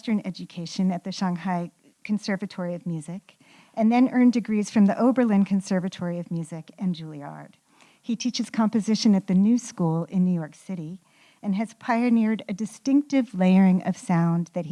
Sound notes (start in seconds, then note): none